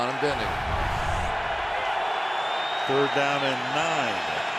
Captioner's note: cheering